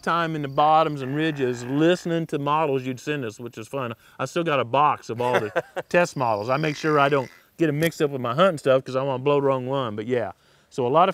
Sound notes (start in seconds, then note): 5.2 laughter